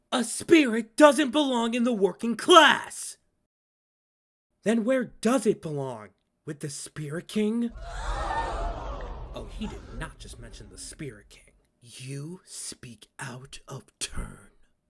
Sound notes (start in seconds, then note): 9.3 everyone in the restaurant gasps; 12.8 sinister